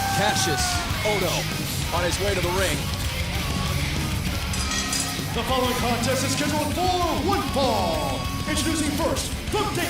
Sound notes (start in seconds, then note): 4.5 bell ringing